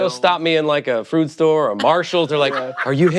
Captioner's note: laughter